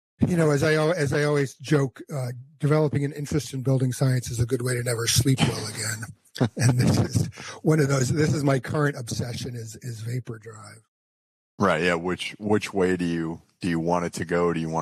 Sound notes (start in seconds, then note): 6.0 laughs